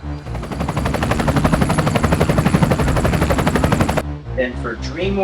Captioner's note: drone/helicopter noises